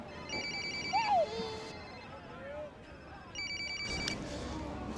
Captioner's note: phone rings